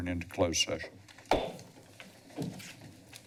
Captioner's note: gavel tap